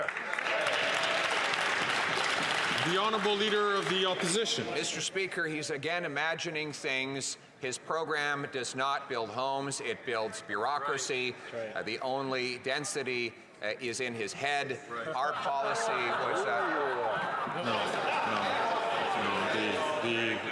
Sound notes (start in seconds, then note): 3.3 some Applause